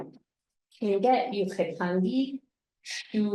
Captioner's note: speaking tlingit